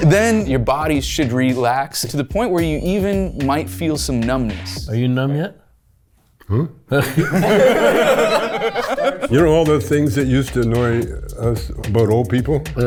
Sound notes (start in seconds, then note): 6.9 group laughs